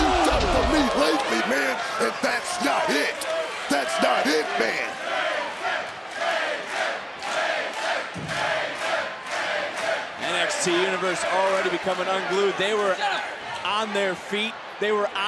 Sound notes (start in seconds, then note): 5.0 crowd chants "frazer"